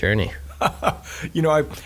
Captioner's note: laughing